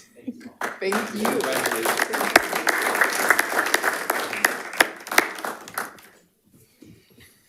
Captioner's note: audience applauding